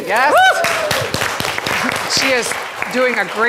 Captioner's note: crowd clapping